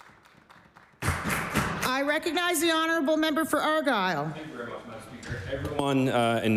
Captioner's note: applause